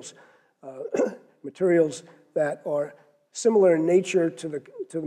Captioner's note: cough